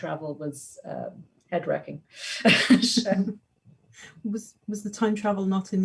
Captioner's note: laughs